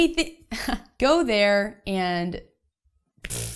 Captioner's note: chuckles; blows air